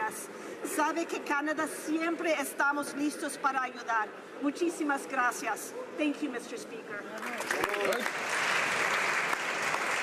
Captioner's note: speaking spanish